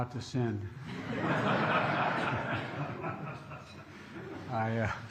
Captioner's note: laughter